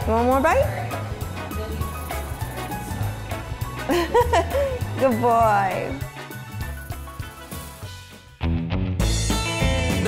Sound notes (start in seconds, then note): 3.8 laughing; 8.7 country music